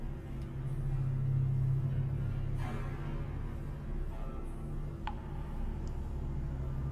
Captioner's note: engranaje clanks; tuberías de jangle